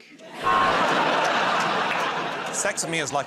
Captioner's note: laughter